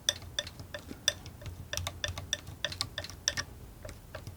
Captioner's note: tapping; tapping